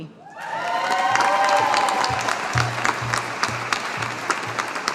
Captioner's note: audience applauding